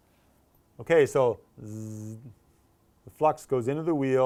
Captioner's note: buzzing sound